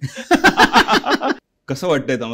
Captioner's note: laughter